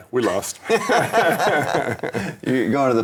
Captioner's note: laughing